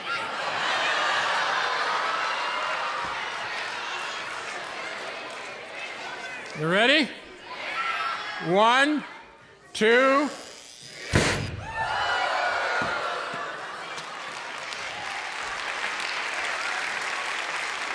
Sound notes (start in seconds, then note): 0.3 audience laughing; 10.9 audience exclaiming; 11.7 electricity sizzles, cork pops, audience yelps; 14.6 audience applauding